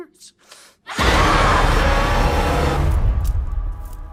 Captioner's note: demon screams; intense frightening music